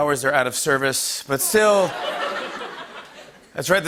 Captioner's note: laughter